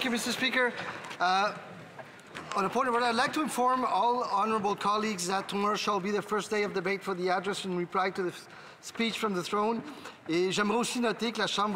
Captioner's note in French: voix de l'interprète